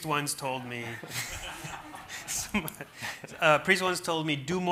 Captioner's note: everyone laughing